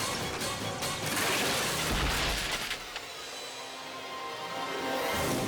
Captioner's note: cyclist crashing